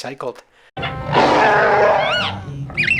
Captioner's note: roar; frantic robot squeaks